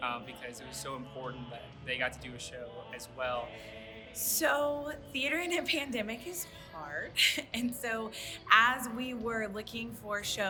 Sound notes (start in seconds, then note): 7.3 laughs